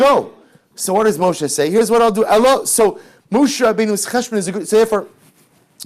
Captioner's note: Hebrew